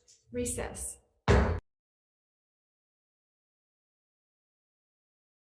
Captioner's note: mullet pounding